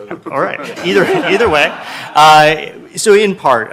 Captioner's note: laughing